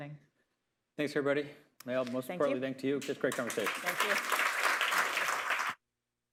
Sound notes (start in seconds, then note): 3.0 applause